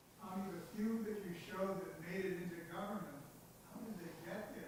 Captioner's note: speaking faintly